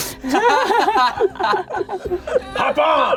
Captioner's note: all laughing